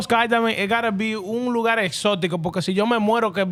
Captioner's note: speaking Foreign Language